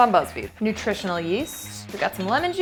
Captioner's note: cash register chimes